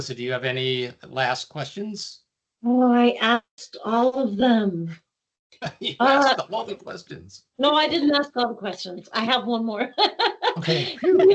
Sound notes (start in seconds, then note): 5.6 laughing; 9.7 laughing